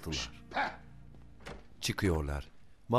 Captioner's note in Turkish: Kapı açılma sesi